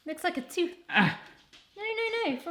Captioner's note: grunts